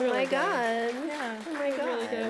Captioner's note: applause